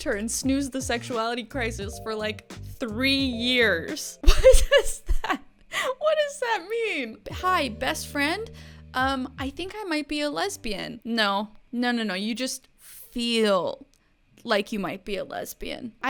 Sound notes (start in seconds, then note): 4.1 laughing